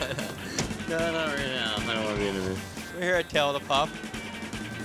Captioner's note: laughs